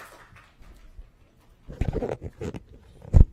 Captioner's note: applause